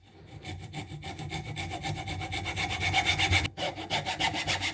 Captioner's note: sawing